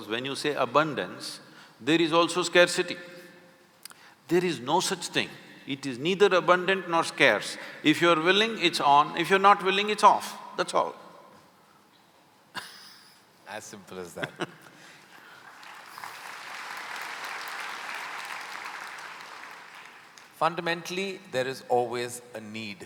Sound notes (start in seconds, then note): 12.6 both laugh; 15.2 applause